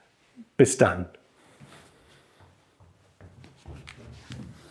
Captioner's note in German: Schritte